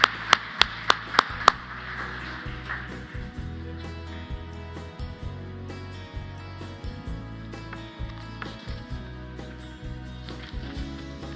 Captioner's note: applause